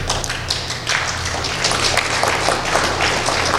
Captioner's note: applause